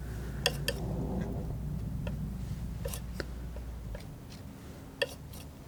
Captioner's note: tapping